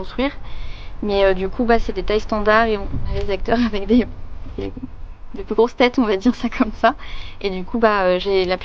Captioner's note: laugh